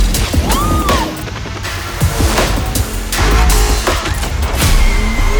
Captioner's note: engine roaring; gears shifting; exciting music continues; woman yelling; engine roaring; intense music continues